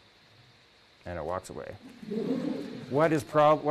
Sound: laughter

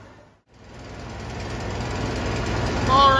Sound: mill engine continues

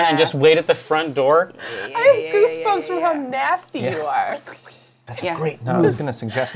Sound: squelching sounds

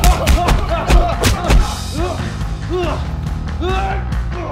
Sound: hitting sounds; grunting

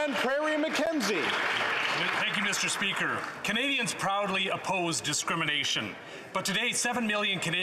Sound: some Applause

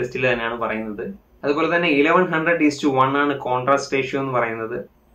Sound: Static

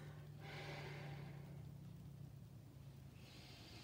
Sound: exhales

